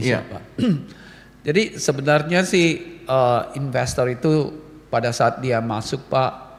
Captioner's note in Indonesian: berdehem